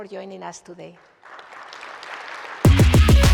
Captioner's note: applause